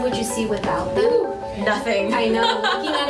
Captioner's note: laughs